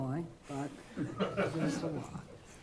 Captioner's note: laughter